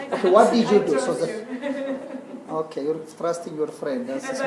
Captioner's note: laugh